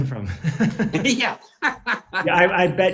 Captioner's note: laughs